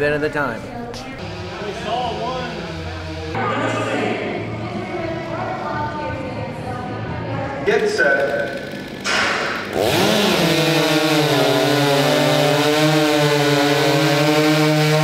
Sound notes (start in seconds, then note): 10.1 chainsaws buzzing